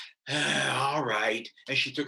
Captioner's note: sighs